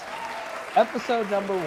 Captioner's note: crowd Cheering